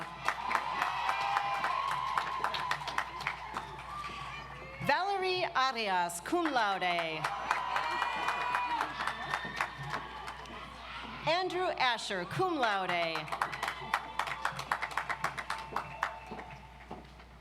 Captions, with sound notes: (audience applauds) Valerie Arias, Cum Laude. (audience applauds) Andrew Asher, Cum Laude. (audience applauds)